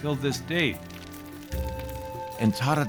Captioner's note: fire crackling